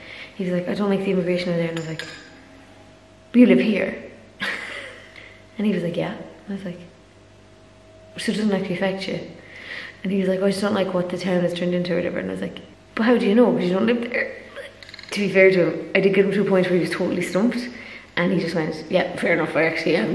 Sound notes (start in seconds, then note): 4.4 laughs